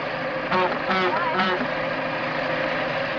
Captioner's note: horn honks